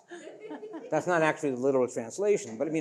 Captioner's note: audience laughing